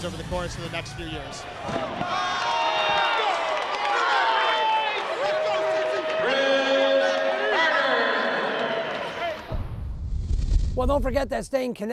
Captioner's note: cheers